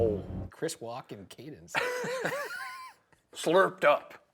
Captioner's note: both laugh